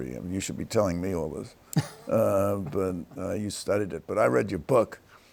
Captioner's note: chuckles